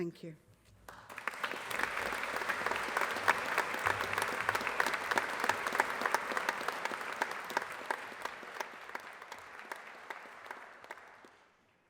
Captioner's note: applause